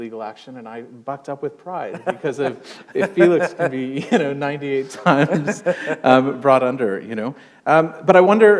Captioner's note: chuckle